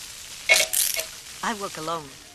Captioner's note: metal clinks